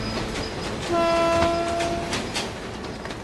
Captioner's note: train passing; train horn